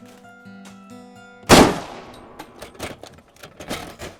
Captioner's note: gun cocks; gun fires